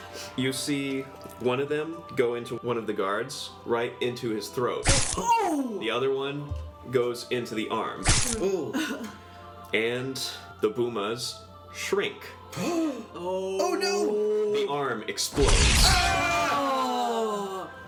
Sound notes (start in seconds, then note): 12.6 Zyzzix gasps; 15.7 group yelp/disgust